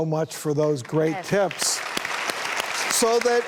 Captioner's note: audience applauds